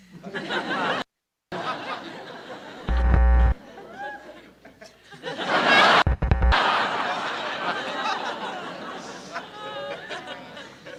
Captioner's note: laughter from TV interrupted by TV going out